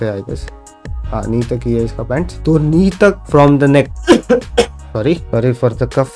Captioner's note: coughing